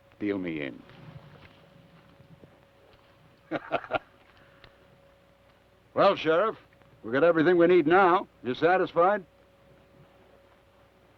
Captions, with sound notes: Deal me in. (Theodore laughs) - Well, Sheriff, we've got everything we need now. Are you satisfied?